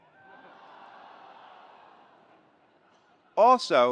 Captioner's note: attendees laughs